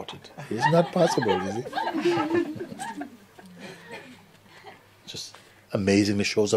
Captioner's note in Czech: smích